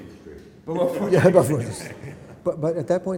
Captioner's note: laughter